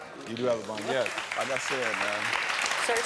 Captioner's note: audience clapping